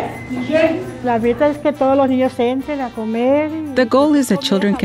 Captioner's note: speaking spanish